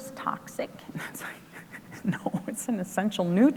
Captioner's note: laughs